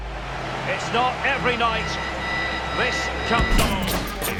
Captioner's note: crowd cheers